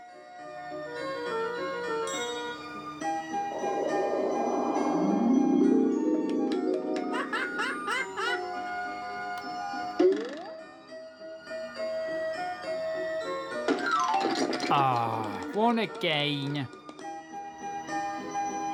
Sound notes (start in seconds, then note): 7.1 pingu laughing; 13.6 snowman knocked sound